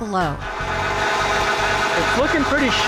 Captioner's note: machine sanding